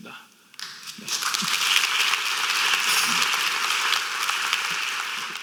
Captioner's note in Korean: 박수